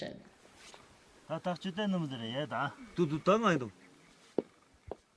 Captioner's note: men speaking Tibetic language